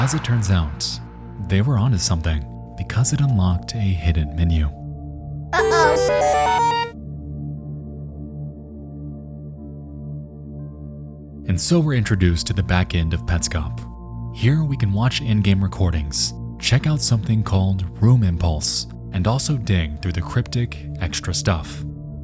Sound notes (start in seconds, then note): 5.6 ominous music continues; 5.7 voiceover